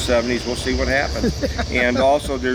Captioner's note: laughs